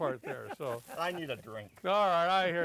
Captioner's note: laughter